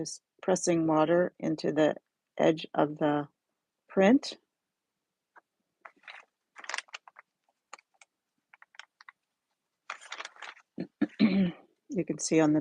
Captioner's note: oops the crinkly paper noise